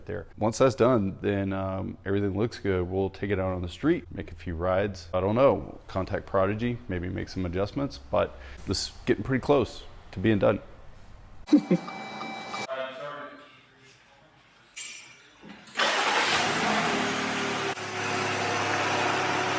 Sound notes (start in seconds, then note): 11.5 giggles; 15.7 engine starts up